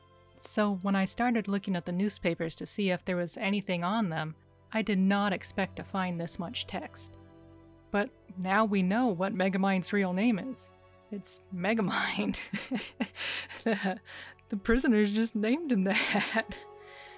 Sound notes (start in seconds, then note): 12.4 laughing; 15.9 laughing